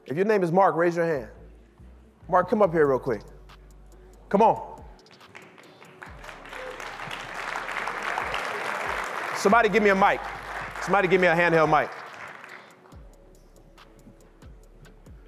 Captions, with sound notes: If your name is Mark, raise your hand. Mark, come up here real quick. Come on. (audience clapping) Somebody give me a mic. Somebody gave me a handheld mic.